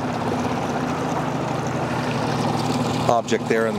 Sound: boat motor whirs

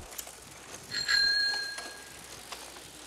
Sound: bell ringing

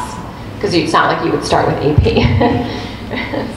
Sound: laughs

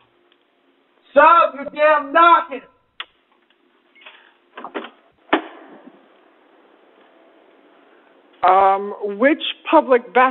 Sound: door opens

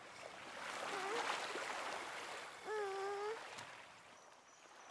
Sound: Moana whimpers

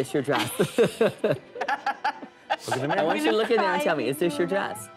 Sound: laughs

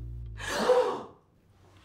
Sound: everyone gasps

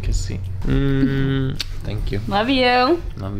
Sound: humming

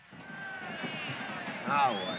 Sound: disgruntled chatter

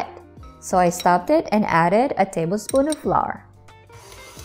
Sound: spoon clanking

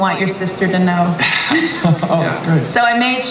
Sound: laughs

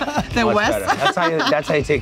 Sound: laughs

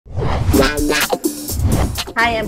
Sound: whooshing; upbeat pop rock music

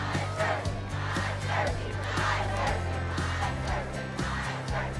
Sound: crowd chanting

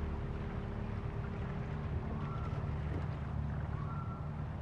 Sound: loons calll in the distance

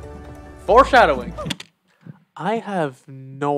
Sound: spacebar click

